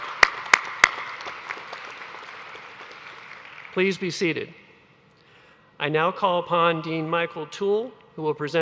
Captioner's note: applause